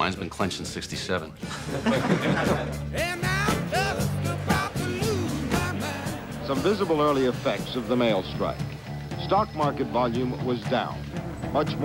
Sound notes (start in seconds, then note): 1.4 laughter